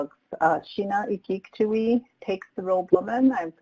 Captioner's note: speaks native language